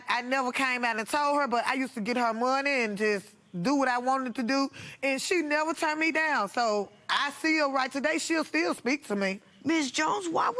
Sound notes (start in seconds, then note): none